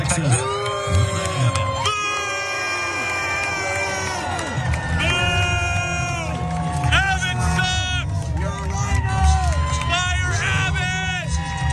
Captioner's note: applause